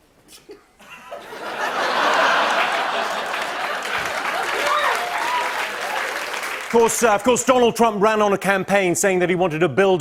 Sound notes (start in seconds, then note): 0.8 laughter; 3.3 laughter and applause